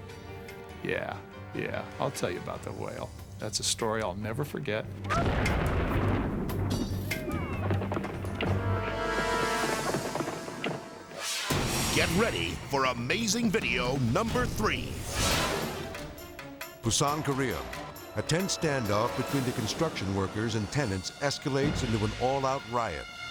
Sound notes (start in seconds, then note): 5.1 dynamite exploding; 11.1 dramatic music